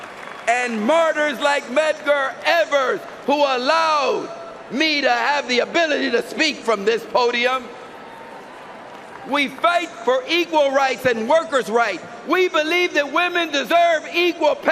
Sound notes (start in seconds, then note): 4.7 cheering and applause